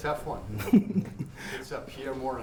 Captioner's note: laughs